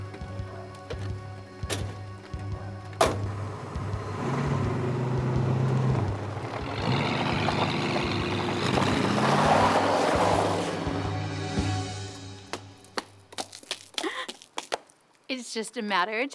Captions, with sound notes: [car engine revving] It's just a matter of time now